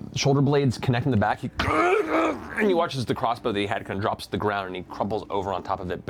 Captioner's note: groans